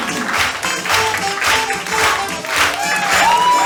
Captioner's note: audience claps along